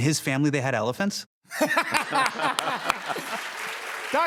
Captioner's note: laughter